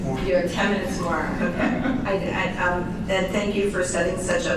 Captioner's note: chuckles